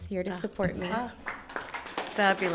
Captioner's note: audience applauds